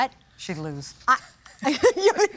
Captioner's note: chuckles; laughs